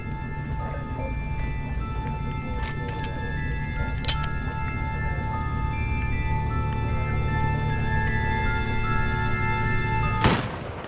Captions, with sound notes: - I was hoping this wouldn't be necessary. (ominous chimes and music) (guns clicks)